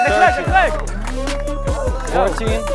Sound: crowd shouting indistinct; thumping electronic music; bell dings

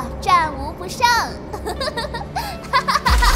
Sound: laugh

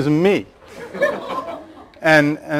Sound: laughter

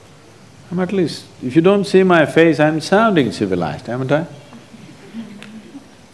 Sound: laughs

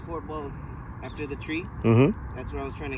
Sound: mmhmm

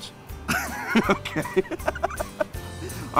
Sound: laughter

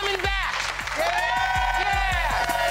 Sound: all cheering

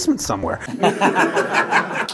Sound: laughter

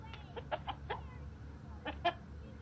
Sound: chicken clucking

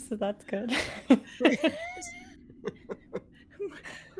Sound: laughter

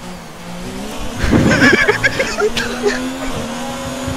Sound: laughing

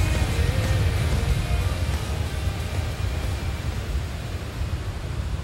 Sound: waterfall

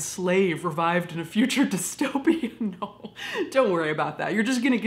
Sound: chuckles

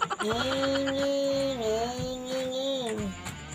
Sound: imitating car sounds

